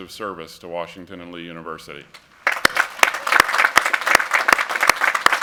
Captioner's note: applause